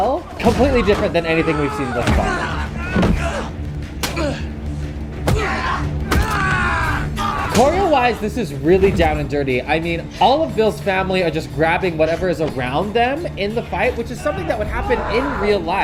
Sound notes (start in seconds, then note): 3.9 blows thudding; 4.0 men grunting